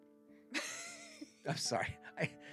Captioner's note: laughs